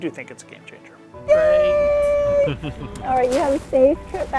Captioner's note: chuckles